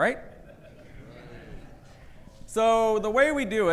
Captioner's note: audience laughing